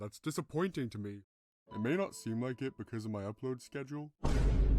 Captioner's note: shock sound effect